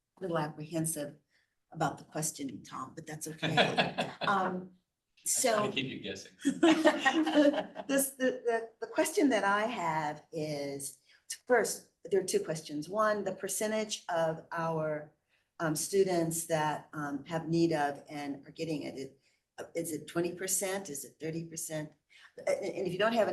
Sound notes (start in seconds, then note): 6.5 laughter